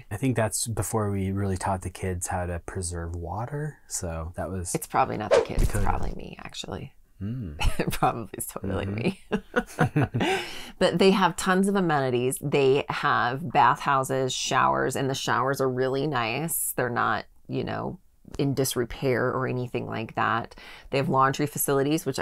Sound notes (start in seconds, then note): 10.1 laughing